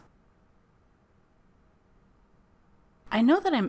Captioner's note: silence